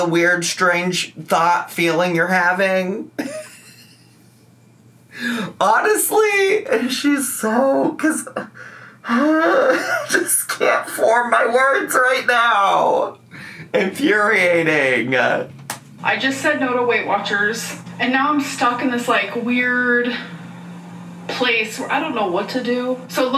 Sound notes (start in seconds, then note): 3.2 laughs; 9.0 groans